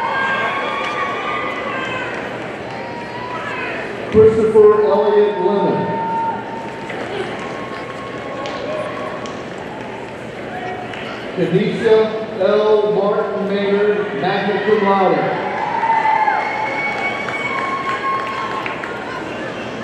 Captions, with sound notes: (audience cheering) Christopher Elliott Lemmon, (audience applauding) Khanisa L. Martin Maynard, magna cum laude, (audience cheering)